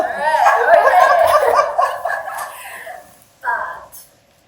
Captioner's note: audience laughing